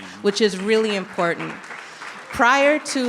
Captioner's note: audience clapping